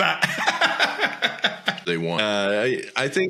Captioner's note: both laughing